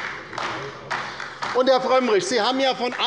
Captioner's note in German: Beifall bei der LINKEN